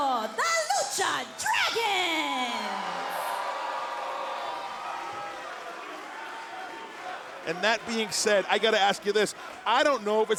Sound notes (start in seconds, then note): 2.3 crowd cheering; 5.0 crowd chatter